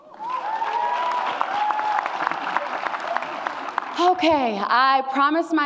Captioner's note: audience cheers